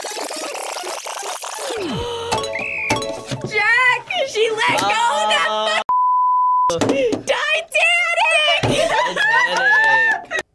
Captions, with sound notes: (track rewinding) (bell dings) - Jack! She let go, that (beeping). "Titanic."